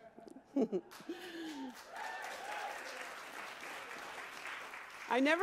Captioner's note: audience applauding